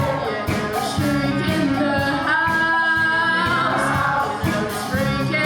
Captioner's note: shriek in the house